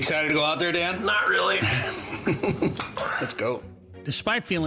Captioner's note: chuckles